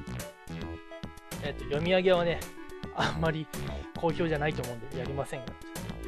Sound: sigh

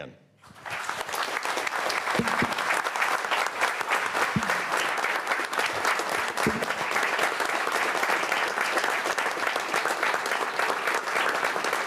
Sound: applause

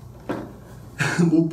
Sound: laugh

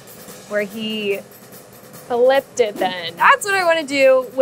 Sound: air whooshing

